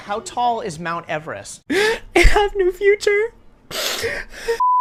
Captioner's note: sob